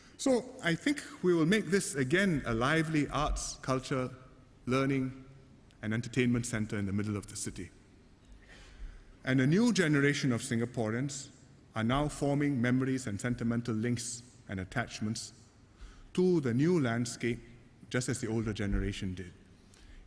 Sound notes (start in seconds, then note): none